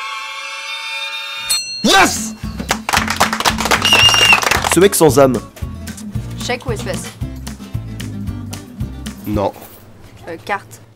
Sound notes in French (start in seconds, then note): 0.0 musique stressante; 1.4 ding; 2.6 les gens applaudissent